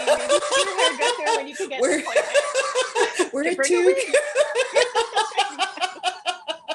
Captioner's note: laughter